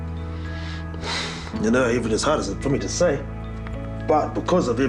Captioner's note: sighs